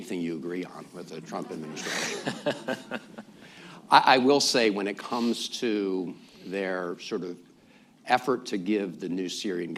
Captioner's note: laughter